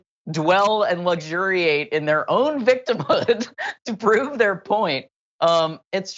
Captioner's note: laugh